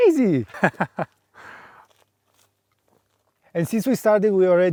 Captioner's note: laughs